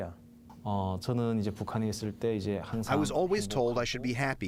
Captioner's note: through translator